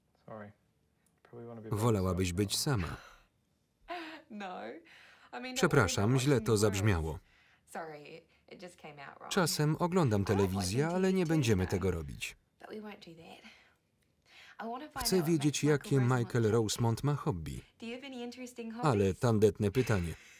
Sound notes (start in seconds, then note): 3.6 laughs loudly